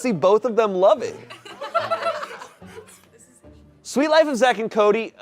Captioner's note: audience laughing